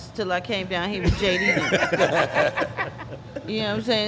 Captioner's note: everyone laughing